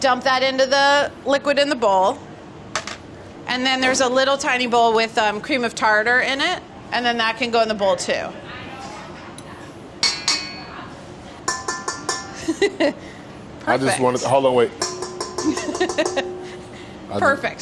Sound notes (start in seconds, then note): 10.0 metal clanging; 14.7 metal clanging; 17.4 laughs